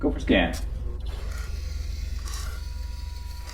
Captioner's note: device buzzing; device wheezing